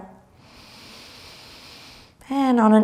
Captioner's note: breathing deeply